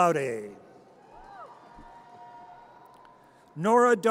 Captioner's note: audience cheers